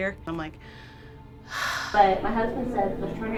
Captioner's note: sighs